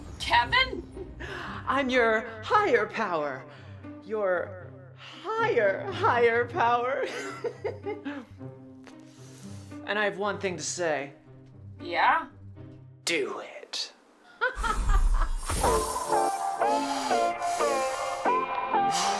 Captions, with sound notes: Kevin?! I'm your higher power. Your HIGHER higher power. (laughter) And I have one thing to say. Yeah? Do it. (laughter) (magical sounds!)